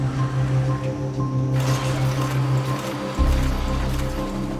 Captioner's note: sound of printing machine